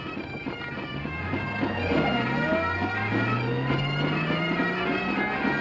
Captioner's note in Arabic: صوت محرك السيارة